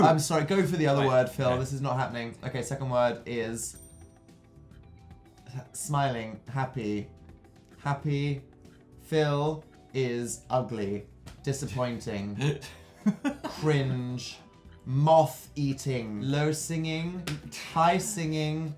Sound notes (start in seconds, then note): 12.9 giggles